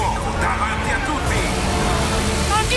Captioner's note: Kart sound